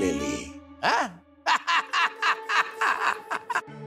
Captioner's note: laughing